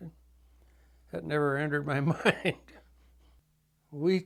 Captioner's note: chuckles